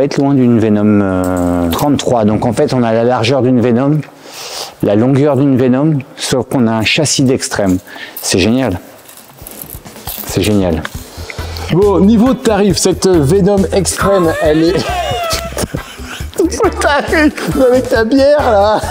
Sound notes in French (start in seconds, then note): 14.2 rires